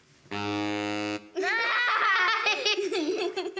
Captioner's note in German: beide, lachen